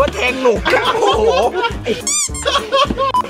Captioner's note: laughs